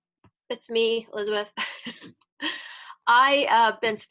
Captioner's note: laughs